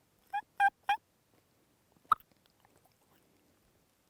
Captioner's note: turkey calling